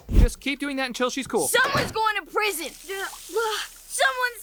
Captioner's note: gasps